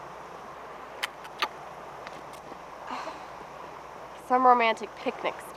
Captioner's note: camera clicks